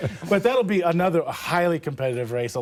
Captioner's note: laughter